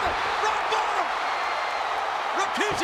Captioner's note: spectators cheering